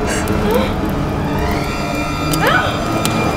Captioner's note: Leah moaning